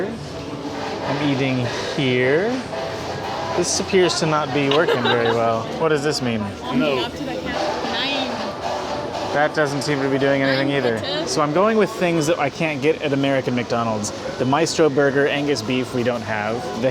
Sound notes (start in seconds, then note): 4.6 laughs